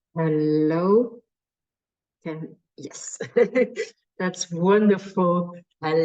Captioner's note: chuckles